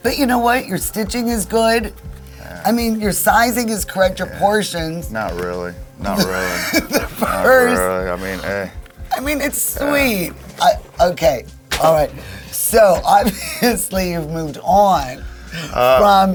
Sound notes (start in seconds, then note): 7.1 laughs